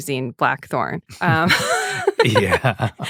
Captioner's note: laughter